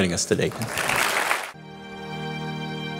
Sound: applause

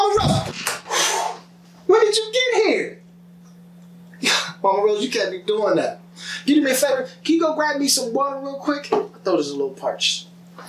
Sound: exhale

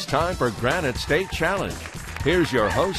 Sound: applause

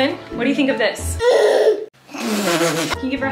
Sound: grunts; laughs

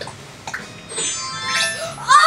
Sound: chimes as outfit changes

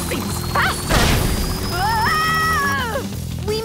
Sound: screaming

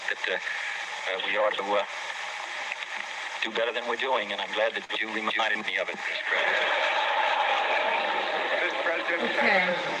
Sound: laughter

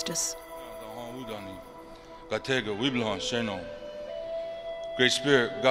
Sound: man speaks in a Ponca language

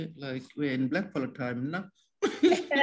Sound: laughs

